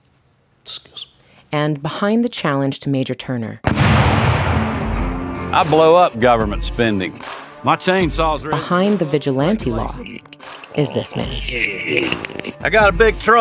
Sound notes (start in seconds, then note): 3.6 explosion booming